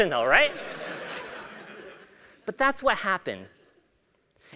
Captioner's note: laugh